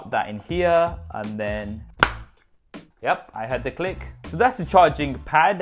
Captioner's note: loud click